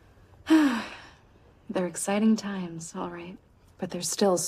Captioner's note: sighs